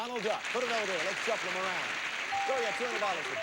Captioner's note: audience applauding